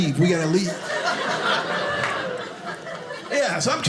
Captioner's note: audience laughing